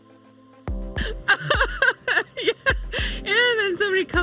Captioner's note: laughing